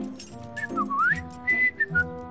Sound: whistling

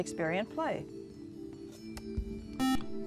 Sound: buzzer

